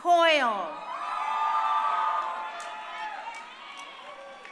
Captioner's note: crowd cheering